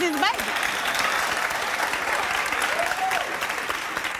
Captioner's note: applause